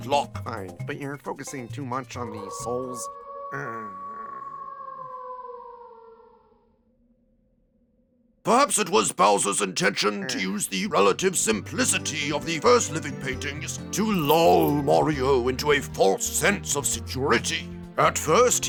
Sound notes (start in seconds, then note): 6.3 howl of a distant royal warg; 7.8 sighs